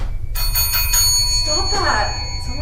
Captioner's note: bell ringing